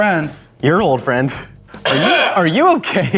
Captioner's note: coughs